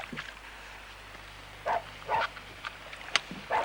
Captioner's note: barking gets louder